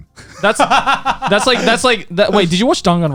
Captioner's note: laughs